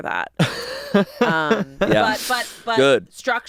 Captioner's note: laughs